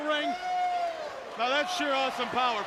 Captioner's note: crowd cheering